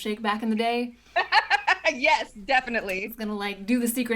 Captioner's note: laughs